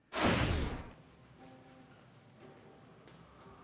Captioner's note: whooshing